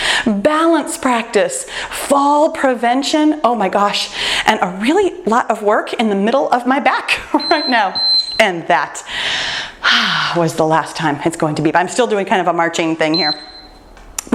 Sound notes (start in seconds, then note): 7.0 chuckles; 7.3 timer beeps; 9.0 breathes